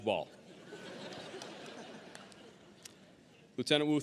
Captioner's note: audience laughing